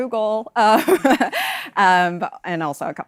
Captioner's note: laughs